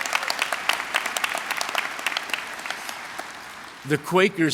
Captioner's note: applause